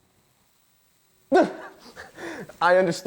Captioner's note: chuckles